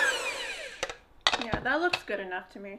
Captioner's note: mixer stirring